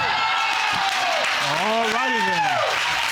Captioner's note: audience cheering